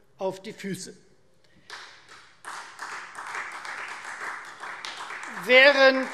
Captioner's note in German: Beifall Freie Demokraten